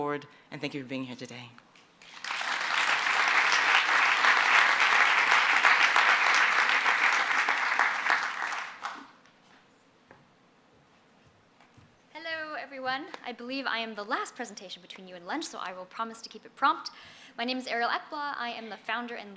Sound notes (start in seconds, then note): 2.0 applause